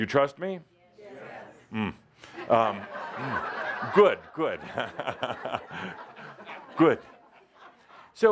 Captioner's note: he makes a face, the audience laughs